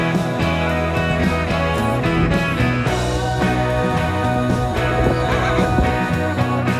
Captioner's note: trotting